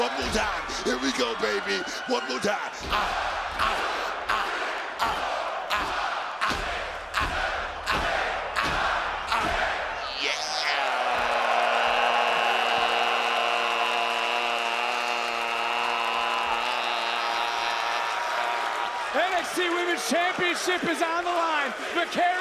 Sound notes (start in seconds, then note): 16.2 crowd applauding